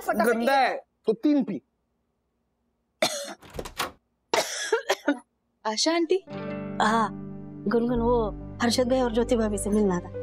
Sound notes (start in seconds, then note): 3.0 coughs